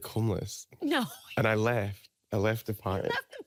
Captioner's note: laughing